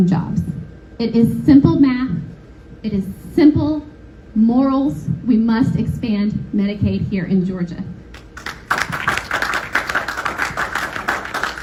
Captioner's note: applause